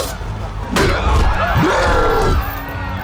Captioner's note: roars